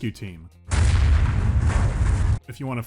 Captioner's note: mighty cannon shots